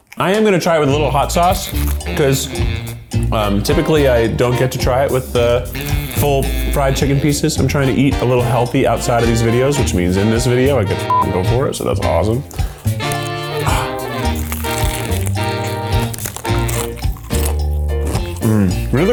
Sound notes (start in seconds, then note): 11.1 beep; 13.8 upbeat music; 15.3 crunching